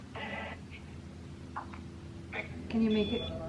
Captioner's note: radio sounds